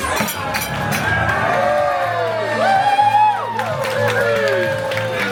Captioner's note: crowd cheering